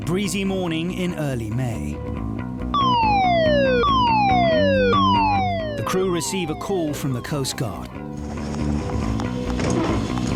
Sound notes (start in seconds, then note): 2.7 lifeboat station siren wailing